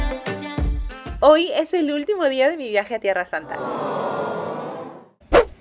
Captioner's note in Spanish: awww